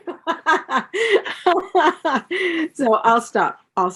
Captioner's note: laughter